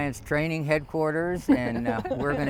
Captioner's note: nervous giggles